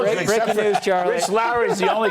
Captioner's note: laughter